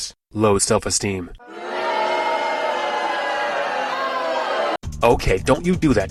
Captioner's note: crowd boos with pure, uncut contempt